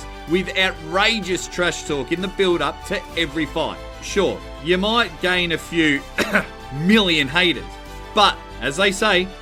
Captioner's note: cough